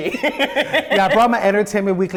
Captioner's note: laughs